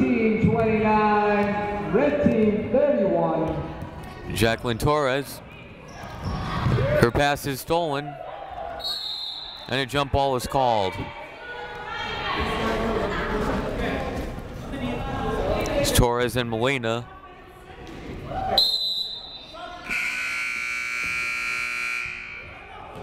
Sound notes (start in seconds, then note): 18.5 whistle blowing; 19.8 buzzer sounding